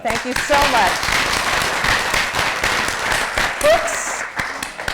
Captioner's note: applause